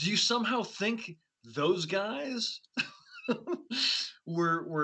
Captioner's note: laughs